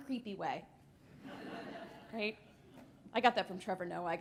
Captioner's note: laughter